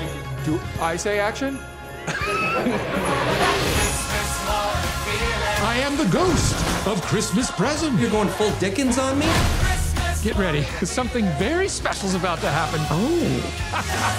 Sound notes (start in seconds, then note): 2.1 crew laughing; 13.6 laughing